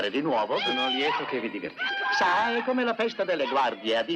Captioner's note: hollering